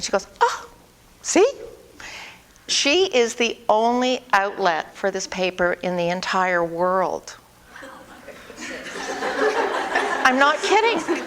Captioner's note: audience: Laughter